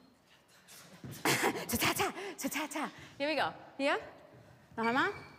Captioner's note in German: lacht